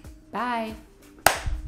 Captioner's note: clap